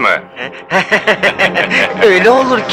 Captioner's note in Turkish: Kahkahalar